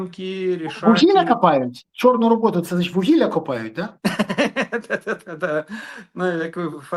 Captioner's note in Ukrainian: сміх